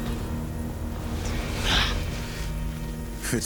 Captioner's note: grunts